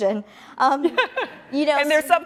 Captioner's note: laughs